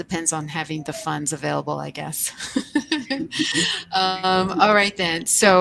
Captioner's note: laughs